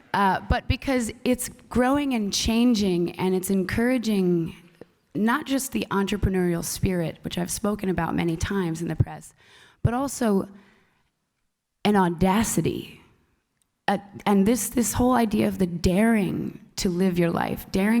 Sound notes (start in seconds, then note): none